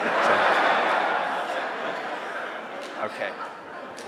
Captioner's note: laughter